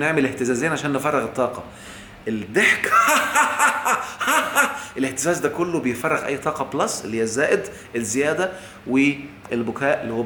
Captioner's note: laughs!